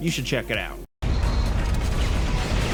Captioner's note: upbeat metal music; guns firing